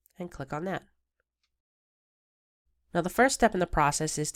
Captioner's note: silence